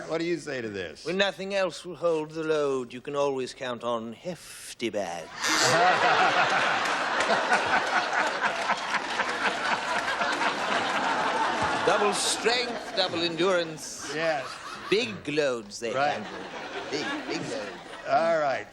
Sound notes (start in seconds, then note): 1.6 british accent; 5.3 laughter